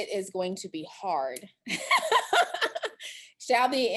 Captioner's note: laughter